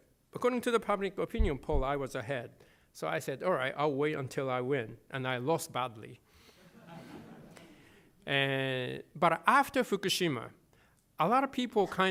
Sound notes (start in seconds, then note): 6.6 laughter